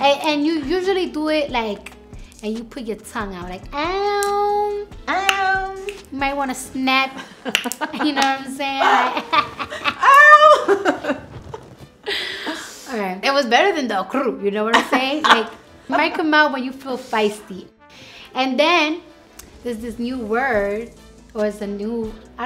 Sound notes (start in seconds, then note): 7.4 tongue snapping, laughter; 8.8 laughter; 14.7 laughter